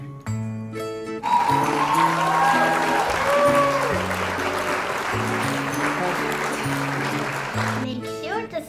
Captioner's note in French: applaudissement